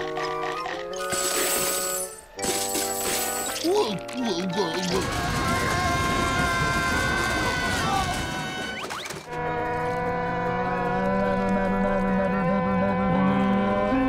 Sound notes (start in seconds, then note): 3.4 sobbing; 5.0 screaming